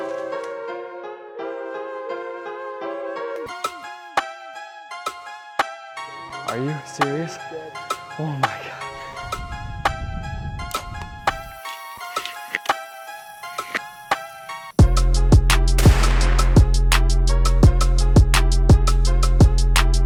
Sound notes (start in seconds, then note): 0.1 upbeat music; 8.8 wind whooshing; 11.3 crickets chirping; 15.8 gun fires; 17.3 upbeat music